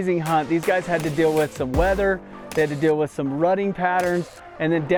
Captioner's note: none